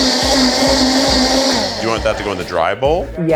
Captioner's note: blender whirring